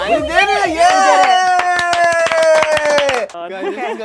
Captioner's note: cheers